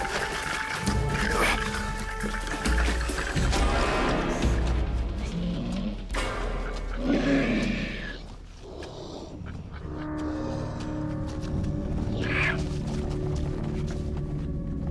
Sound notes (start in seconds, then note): 0.2 Christos panting; 6.9 creature growling; 11.5 ominous music